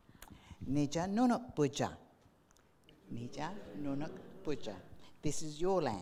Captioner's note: speaking in foreign language